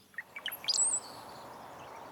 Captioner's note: bird call